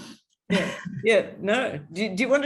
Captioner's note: chuckles